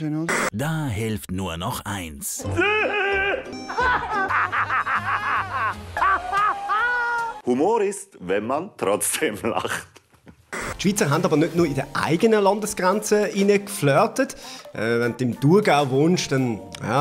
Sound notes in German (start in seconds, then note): 2.5 lachen